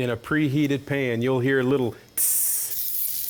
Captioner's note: sizzling sound